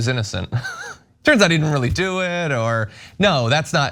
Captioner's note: laugh